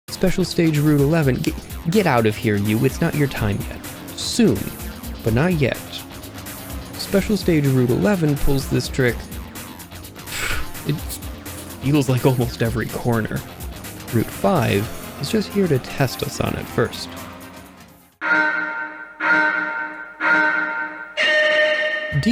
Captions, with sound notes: Special Stage Route 11- get out of here, you. It's not your time, yet. Soon... but not yet. Special Stage Route 11 pulls this trick... *sigh* It feels like almost every corner. Route 5 is just here to test us on it first.